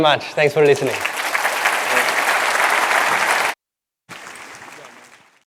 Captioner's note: applause